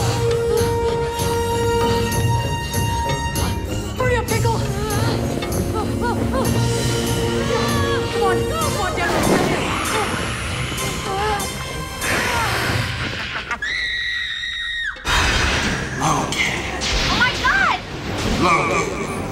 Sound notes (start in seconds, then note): 9.7 hissing; 13.5 screaming